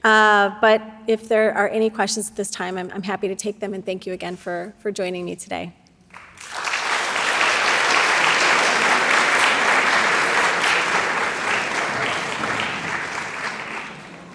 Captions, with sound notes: but if there are any questions at this time, I'm happy to take them. And thank you again for joining me today. (crowd applauding)